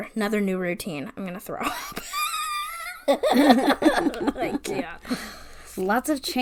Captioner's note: wheeze laughs